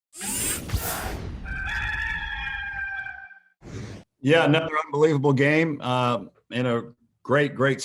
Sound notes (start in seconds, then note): 1.4 rooster noise